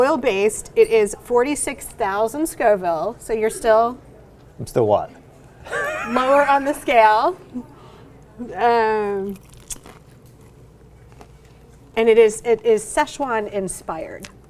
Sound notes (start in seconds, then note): 5.6 laughs